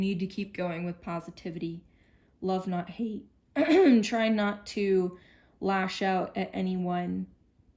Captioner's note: clears throat